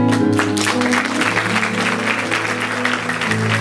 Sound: applause

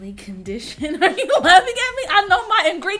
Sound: laughing

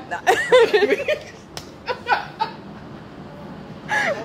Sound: laughing

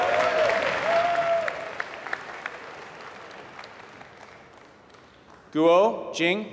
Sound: applause

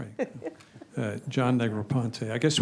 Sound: laughs

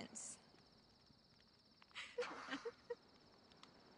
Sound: laughter

